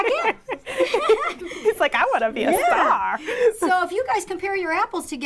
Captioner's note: laughter